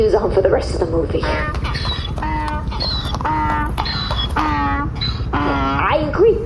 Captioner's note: braying